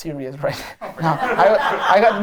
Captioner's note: laughter